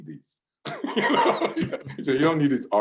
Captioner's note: laughs